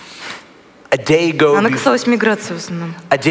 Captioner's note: foreign Language